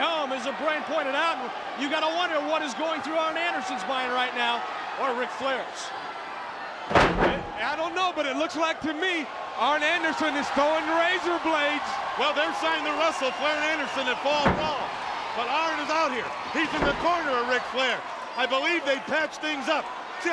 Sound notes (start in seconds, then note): 6.8 wrestlers thudding on ring